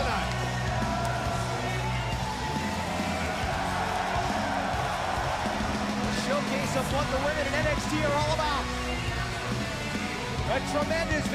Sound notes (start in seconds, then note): 0.0 crowd cheering